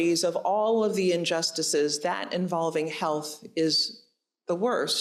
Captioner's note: none